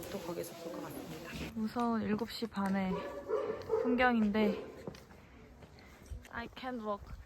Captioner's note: + scary dog noise